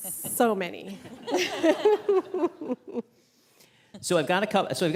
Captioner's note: all laughing